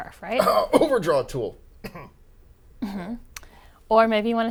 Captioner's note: cough